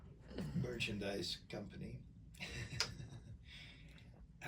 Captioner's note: laughs